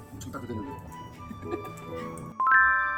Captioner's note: laughter